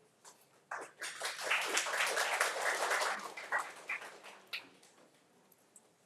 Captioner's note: audience applauding